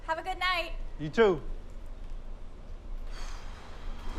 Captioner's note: sighs